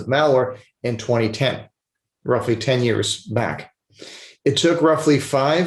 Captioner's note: sniffles